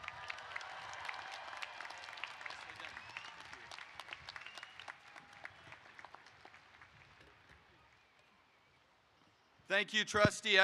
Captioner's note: applause